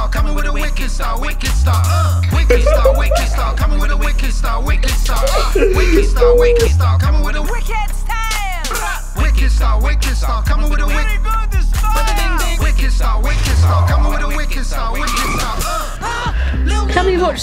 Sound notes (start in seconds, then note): 2.5 boys laugh offscreen